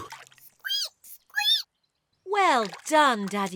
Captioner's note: laughs; squeaks